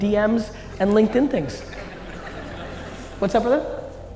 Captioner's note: audience laughing